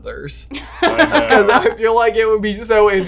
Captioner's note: laughs